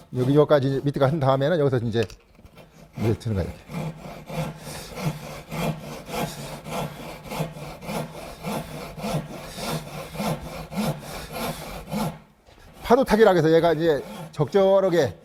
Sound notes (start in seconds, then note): 2.3 sawing sound